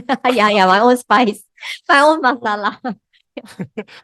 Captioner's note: laughters